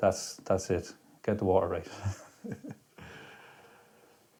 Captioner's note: laughs